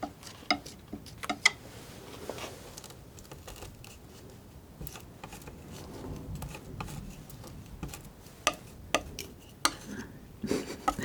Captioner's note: tapping